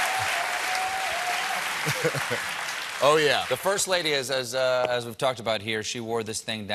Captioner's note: cheers and applause